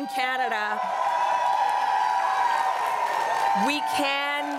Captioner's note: crowd cheering and applauding